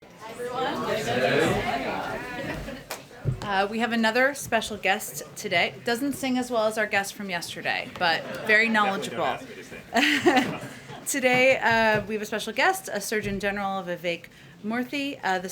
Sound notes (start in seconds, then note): 9.6 laughter; 11.0 laughs